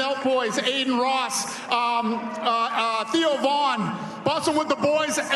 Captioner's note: cheers and applause